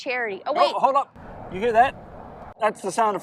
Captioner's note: jet engine roaring